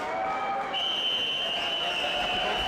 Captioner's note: whistle blowing